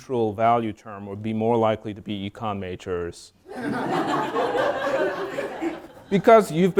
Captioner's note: all laugh